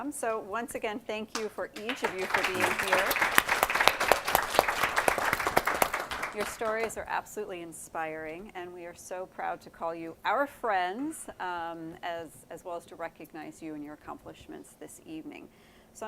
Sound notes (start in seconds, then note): 1.7 audience applauding